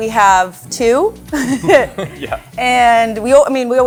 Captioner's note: group chuckles